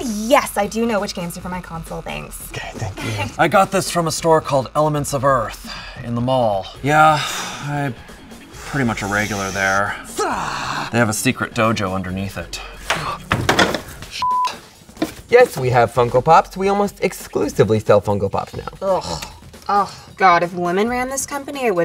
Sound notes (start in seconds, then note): 9.9 makes forceful growl; 12.8 banging sounds; 14.2 beep; 18.8 makes disgusted sound